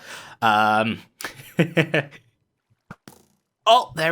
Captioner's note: laughs